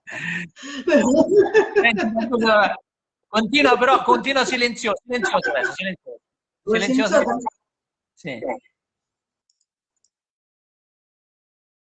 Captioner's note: laugh silently together